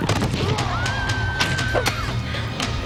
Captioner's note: yells; thud